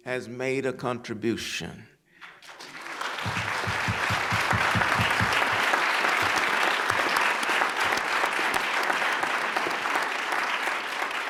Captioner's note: applause